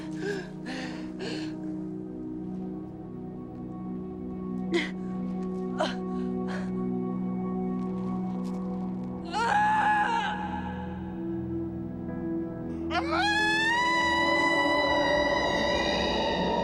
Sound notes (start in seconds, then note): 9.6 Jill crying out